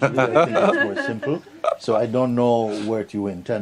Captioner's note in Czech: smích